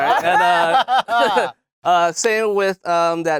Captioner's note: laughing